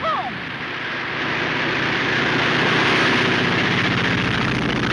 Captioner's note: engine roaring